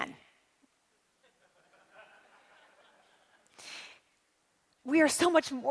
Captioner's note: audience laughing